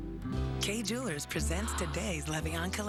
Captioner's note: gasps